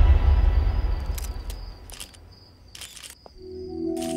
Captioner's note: Camera clicks